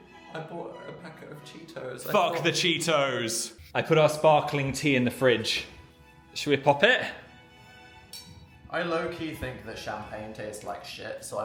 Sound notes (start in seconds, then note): 8.1 glasses clink